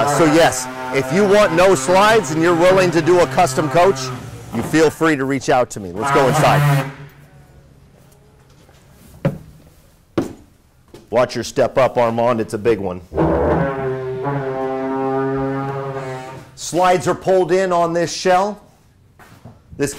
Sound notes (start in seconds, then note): 10.2 footsteps stomping; 13.1 machine blaring